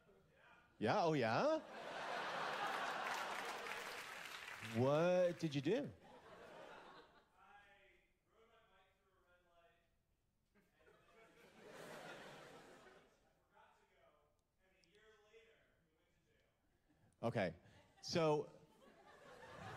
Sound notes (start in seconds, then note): 6.1 quiet laughter; 10.6 quiet laughter; 18.6 laughter